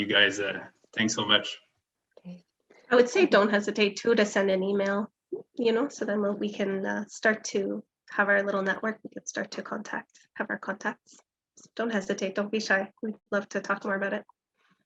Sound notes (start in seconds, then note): none